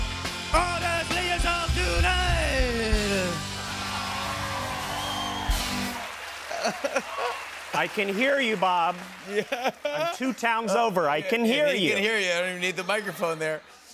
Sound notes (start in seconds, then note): 2.6 cheers and applause; 7.5 normal voice